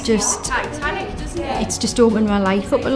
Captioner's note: indistinct chatter